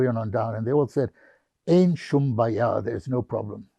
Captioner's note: hebrew